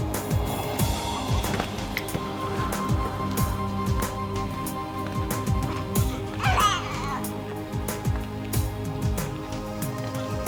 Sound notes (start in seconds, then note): 0.4 dramatic music; 6.0 baby coos